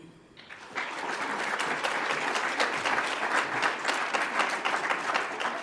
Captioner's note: audience applauds